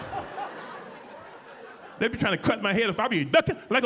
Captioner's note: audience laughing